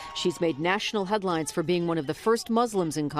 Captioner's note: applause